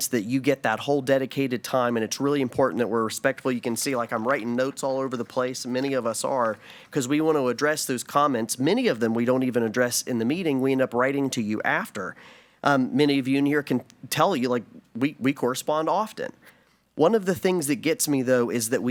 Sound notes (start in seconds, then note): none